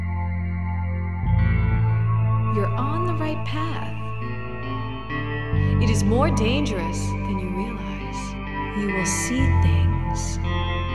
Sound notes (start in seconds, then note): 2.6 voice-over